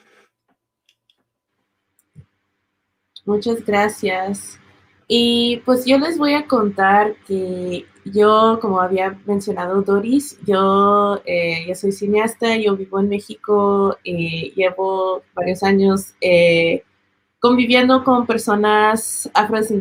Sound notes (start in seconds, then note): 3.3 speaking Spanish